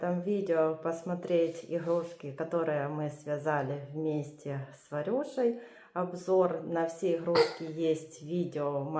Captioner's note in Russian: откашливается